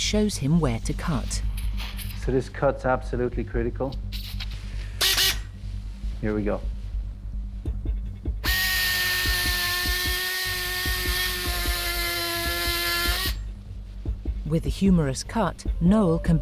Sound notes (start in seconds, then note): 5.0 drill buzzing; 8.4 drill whirring